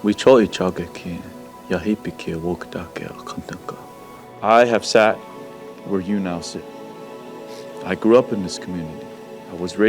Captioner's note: speaking native language